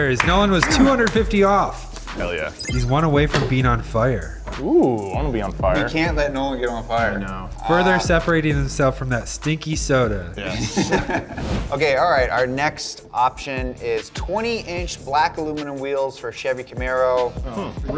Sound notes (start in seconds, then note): 10.4 laugh